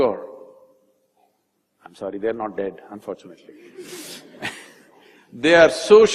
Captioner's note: laughter